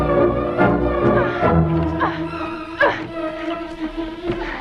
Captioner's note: Hundra grunting